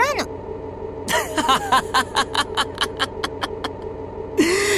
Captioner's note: laugh